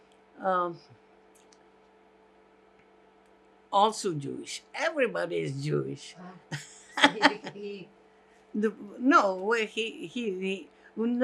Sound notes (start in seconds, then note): 6.4 laughing